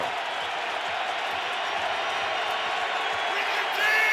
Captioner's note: crowd cheers